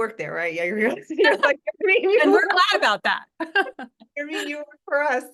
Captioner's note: laugh